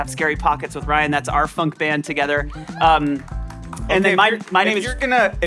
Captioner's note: applause